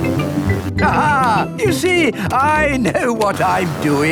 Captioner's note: laughs